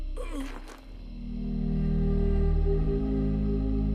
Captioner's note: man groaning